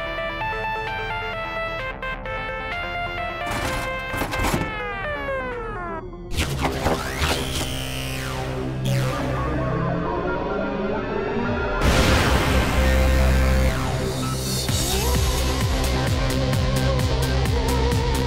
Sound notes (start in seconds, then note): 3.4 device clangs; 3.8 music warbles and fades; 7.3 device buzzing; 11.8 explosion booms; 14.7 psychedelic synth music